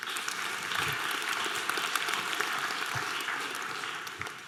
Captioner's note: audience applause